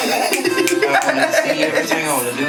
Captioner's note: laughs